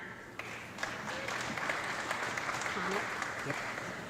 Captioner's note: audience clapping